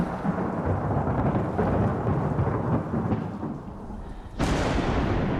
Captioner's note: thunder